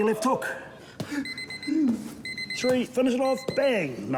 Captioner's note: timer beeps